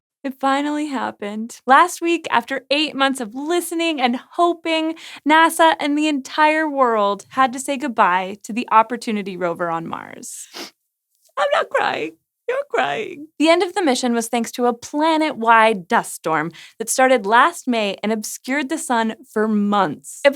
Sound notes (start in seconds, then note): 10.4 sniff